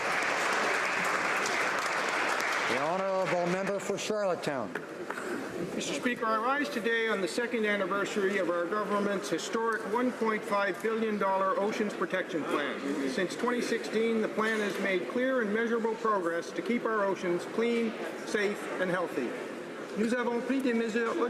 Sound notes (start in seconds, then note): 3.7 applause